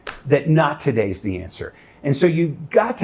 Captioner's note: slapping knees